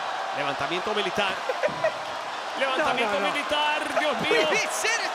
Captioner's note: laugh